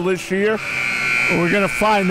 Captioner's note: clock buzzes